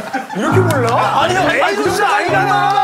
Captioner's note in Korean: 비웃음